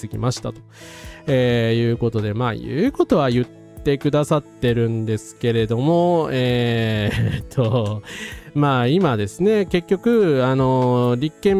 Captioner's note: laughs